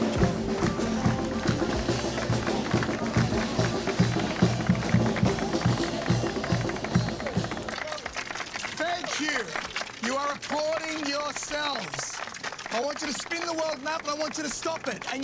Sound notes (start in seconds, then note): 0.0 percussion music playing; 1.1 applauding